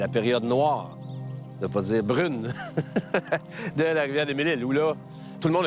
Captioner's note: laugh